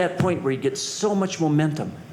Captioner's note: none